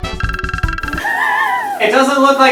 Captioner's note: laughing